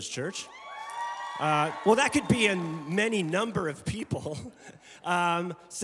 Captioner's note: congregation cheering